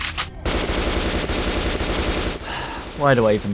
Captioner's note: gunshots continued; sigh